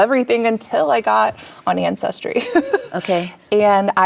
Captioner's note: chuckles